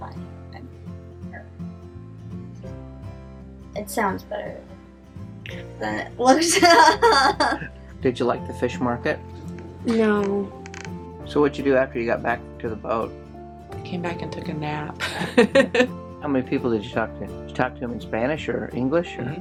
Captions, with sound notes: It sounds better ... than it looked. [laughing] - Did you like the fish market? - No. - So what did you do after you got back to the boat? - I came back and took a nap. [laughing] - How many people did you talk to? Did you talk to them in Spanish or English or ... ?